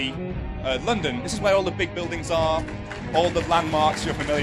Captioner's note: applause